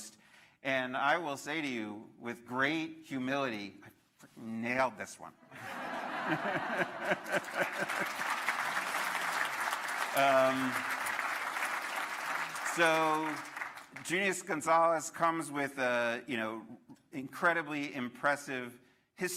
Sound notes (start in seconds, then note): 7.9 laughter; 9.9 applause